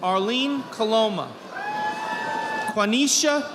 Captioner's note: audience applauding